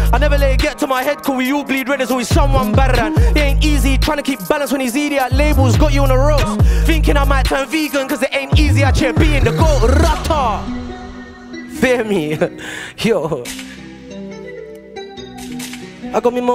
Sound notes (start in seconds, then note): 8.7 tongue rolling; 13.4 hip hop music